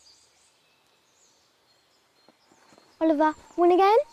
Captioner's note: birds chirping